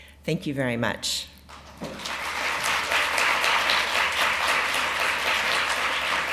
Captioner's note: applause